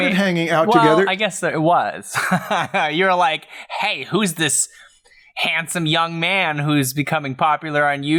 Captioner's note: laughs